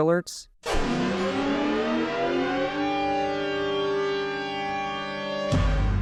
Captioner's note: siren sounds